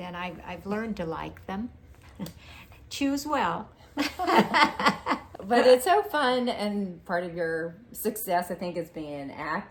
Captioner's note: laughing